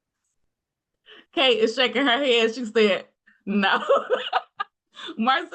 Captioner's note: laughs